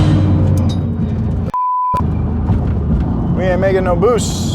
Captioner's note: beep